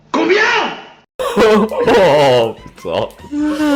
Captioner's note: laugh